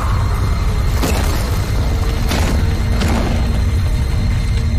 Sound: suspenseful music; loud rumbling

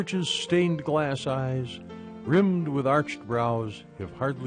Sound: voiceover

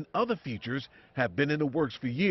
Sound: cheering

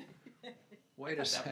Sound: laughs

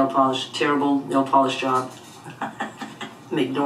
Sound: laughs

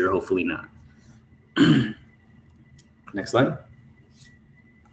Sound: cough

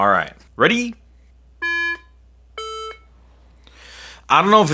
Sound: iPhone beeping

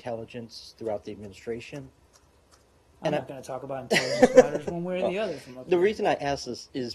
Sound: laughter

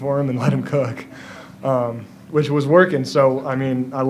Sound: chuckles

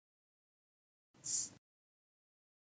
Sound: tss

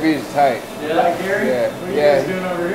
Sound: voiceover

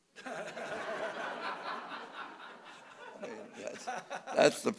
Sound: audience laughing

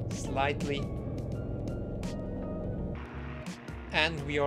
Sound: plane engine roaring

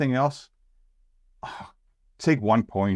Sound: scoff

